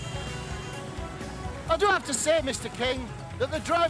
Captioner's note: car honking